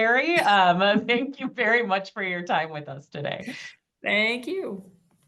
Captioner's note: chuckles